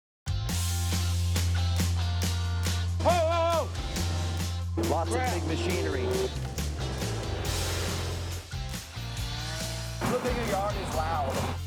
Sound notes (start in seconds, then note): 0.2 upbeat music; 5.4 engine roaring; 8.9 brick saw whistling; 11.4 pipe cutter whistling